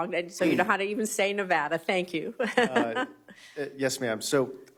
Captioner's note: laughter